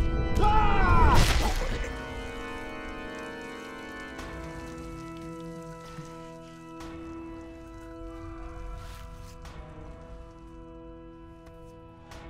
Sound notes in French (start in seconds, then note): 8.0 cri lointain